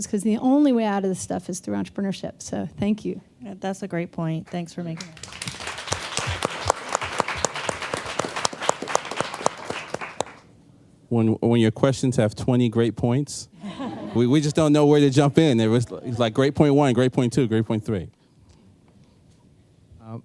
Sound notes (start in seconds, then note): 8.1 applause; 13.6 laughter